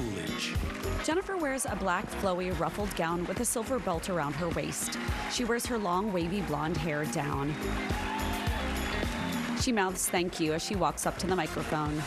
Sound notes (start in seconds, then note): 4.1 applause